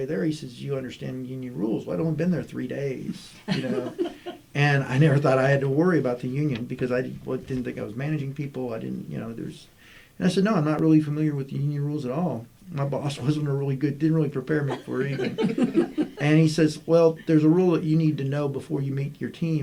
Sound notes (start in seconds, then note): 14.6 laughter